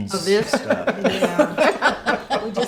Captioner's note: laughs